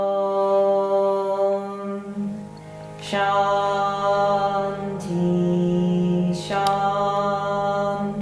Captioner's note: chanting